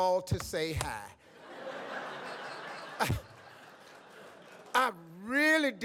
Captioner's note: audience laughs